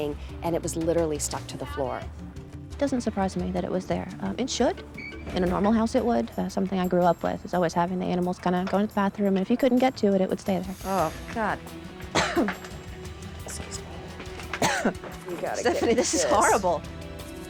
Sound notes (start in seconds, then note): 14.4 coughs